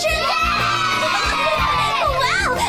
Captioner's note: children cheering